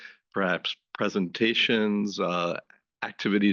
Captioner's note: none